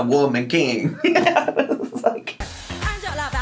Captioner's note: giggling